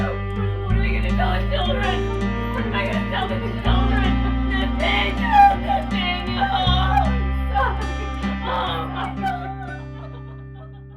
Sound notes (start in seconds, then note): 5.1 Beth sobs